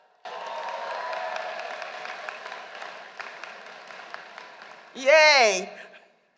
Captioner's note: applause